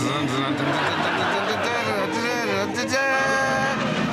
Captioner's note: sir digby hums ''devil's gallop'' by charles williams